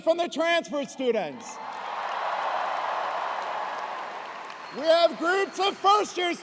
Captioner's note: cheers and applause